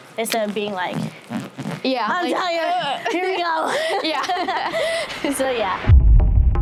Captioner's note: laughter